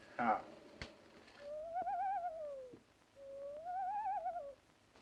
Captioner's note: quivery voices